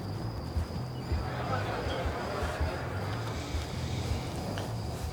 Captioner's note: people chattering